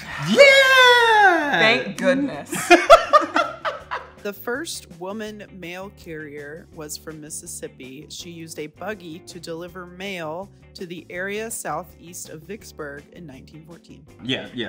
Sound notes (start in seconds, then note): 2.5 both laugh